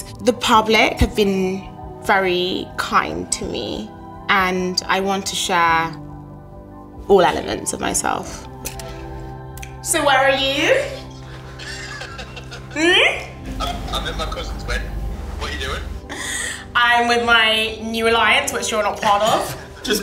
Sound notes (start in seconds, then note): 11.0 laughs